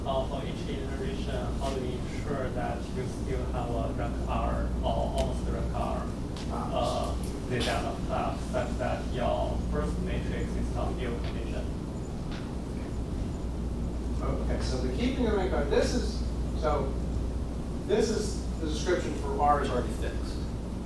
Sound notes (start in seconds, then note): 4.0 faintly speaking